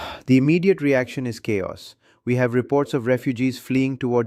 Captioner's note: sighs